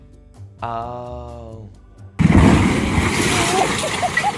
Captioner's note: loud blasting